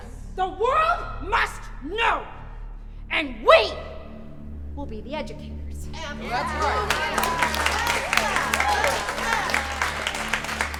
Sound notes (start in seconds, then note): 6.0 everyone cheering